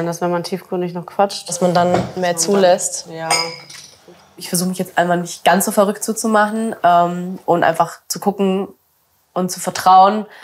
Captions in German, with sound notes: wenn man tiefgründig noch quatscht, dass man dann mehr zulässt." "Ja." (Klirren) "Ich versuche, mich jetzt nicht ganz so verrückt zu machen, ähm, und einfach zu gucken und zu vertrauen,